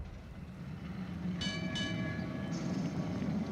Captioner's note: trolley bell rings